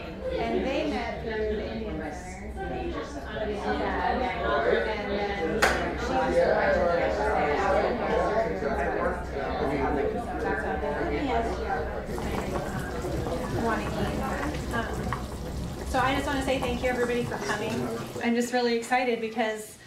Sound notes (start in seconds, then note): 12.0 soup simmering